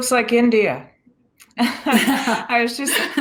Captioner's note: laughs